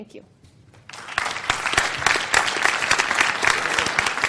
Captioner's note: audience applause